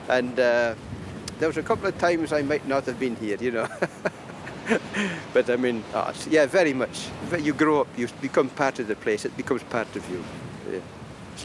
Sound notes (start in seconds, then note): 3.6 laughing